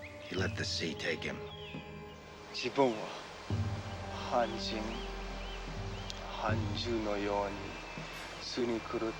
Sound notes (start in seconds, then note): 2.8 speaking foreign language